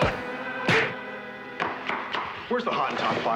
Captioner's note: sharp thudding